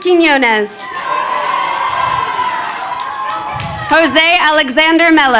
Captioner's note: crowd cheering